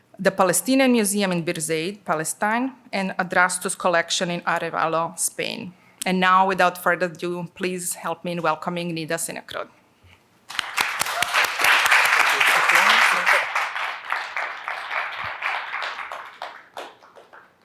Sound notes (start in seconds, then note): 10.4 applause